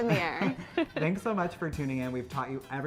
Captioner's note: both laughing